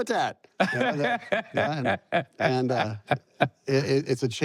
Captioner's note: laughs